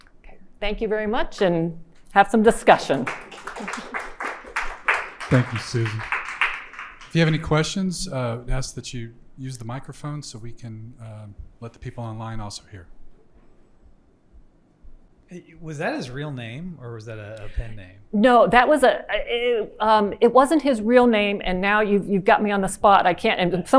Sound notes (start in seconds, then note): 2.6 audience applauding